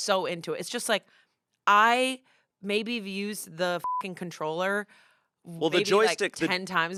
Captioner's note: beep